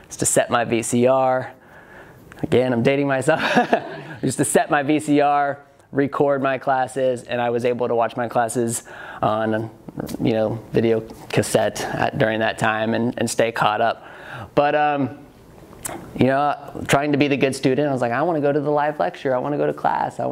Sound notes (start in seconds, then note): 4.0 laughs